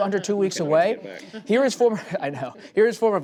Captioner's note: laughter